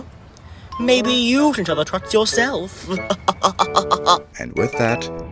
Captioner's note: laughs